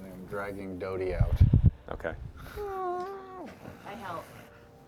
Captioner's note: creaking